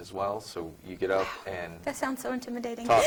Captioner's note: laughing